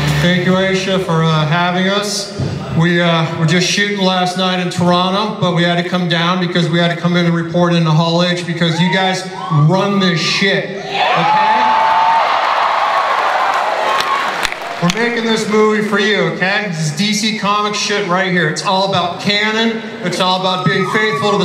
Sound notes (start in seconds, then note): 11.0 audience cheering and applause